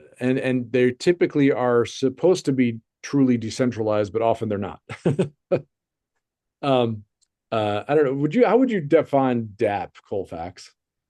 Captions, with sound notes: and they typically are supposed to be truly decentralized, but often they're not. (chuckles) I don't know, would you? How would you define DAP, Colfax?